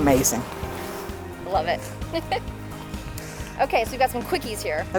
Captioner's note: laughs